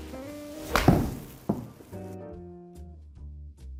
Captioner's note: the sound of hitting the ball is nice